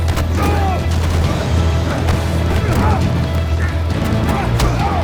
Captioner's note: gunshot popping; fighters grunting